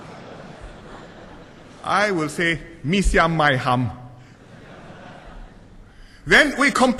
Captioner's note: laughter; laughter